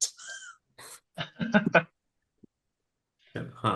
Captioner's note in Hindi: हंसी